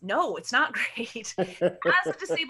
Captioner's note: laughs